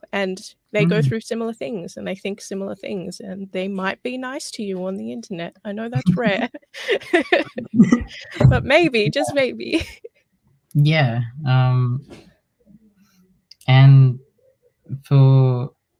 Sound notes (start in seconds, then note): 5.9 laughs